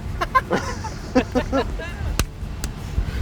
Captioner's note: guys laugh